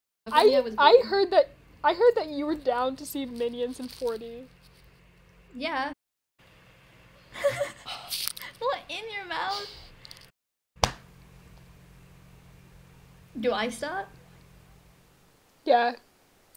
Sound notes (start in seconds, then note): 7.3 laughter